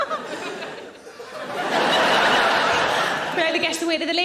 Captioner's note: audience laughing